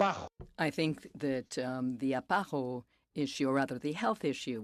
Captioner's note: speaking French